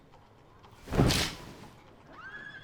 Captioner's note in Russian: шорох распахивающихся штор